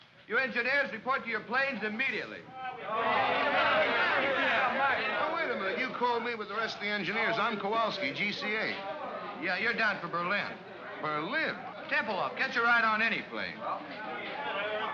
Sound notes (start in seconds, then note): 2.9 men grumble